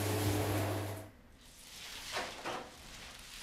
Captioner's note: rustling